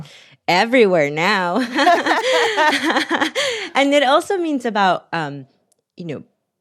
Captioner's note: laughter